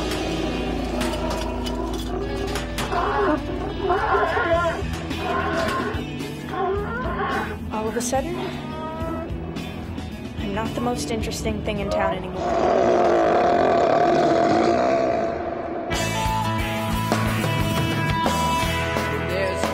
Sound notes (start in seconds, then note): 12.3 bear screams; 15.9 upbeat music